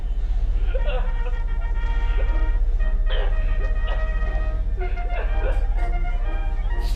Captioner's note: cheerful 1920's music; victim sobbing